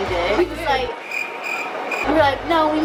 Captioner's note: crickets chirping